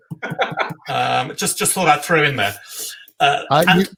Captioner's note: laugh